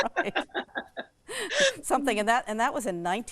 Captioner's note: both laugh